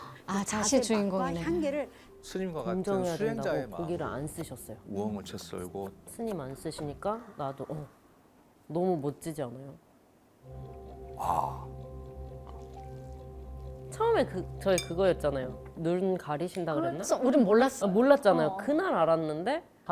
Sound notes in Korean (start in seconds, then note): 10.9 아~